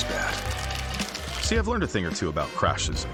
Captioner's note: shell cracking